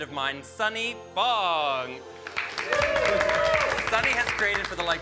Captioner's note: all cheering and clapping